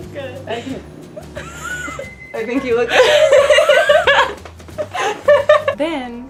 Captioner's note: microwave sounds